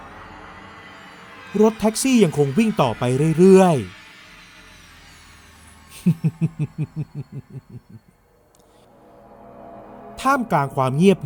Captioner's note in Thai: เสียงหัวเราะ